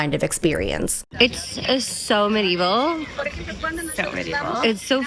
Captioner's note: hoots